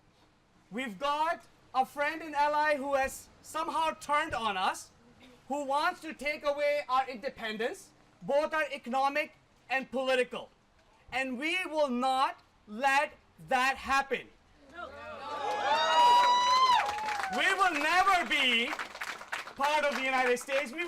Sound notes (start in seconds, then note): 14.7 cheering